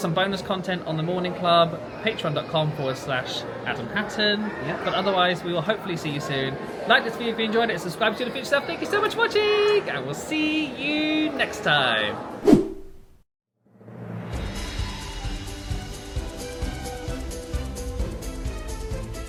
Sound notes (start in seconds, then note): 12.4 screen wipe whooshes; 14.2 bright joyful music